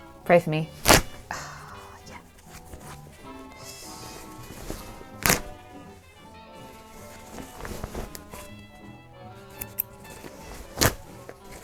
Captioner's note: ripping